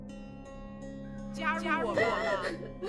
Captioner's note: Malice Voice; Sakura sobbing; Mandarin language